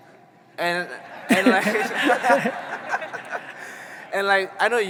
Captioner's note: audience laughing